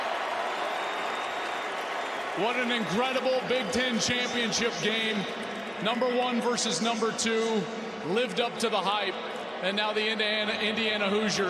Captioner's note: cheers and applause